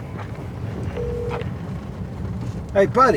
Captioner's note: phone rings, clicks